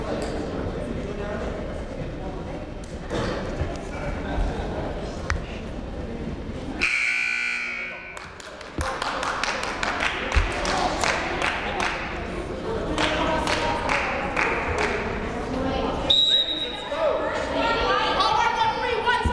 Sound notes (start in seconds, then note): 6.8 buzzer rings; 16.1 whistle shrills